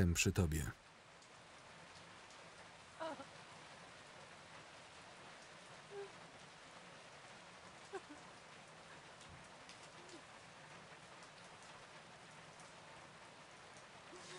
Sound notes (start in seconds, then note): 1.3 rain pouring down; 5.8 sobbing